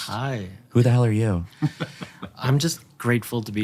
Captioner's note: chuckles